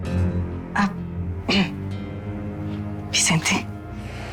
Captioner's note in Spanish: Carraspea